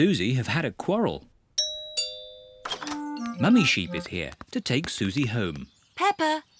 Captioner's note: doorbell rings